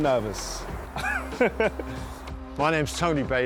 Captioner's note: laughs